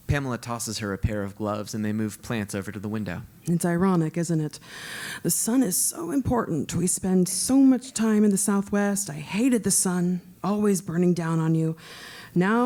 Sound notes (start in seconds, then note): none